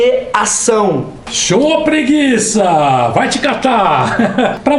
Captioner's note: laughter